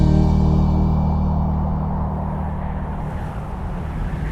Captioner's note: tense music continues; wind blustering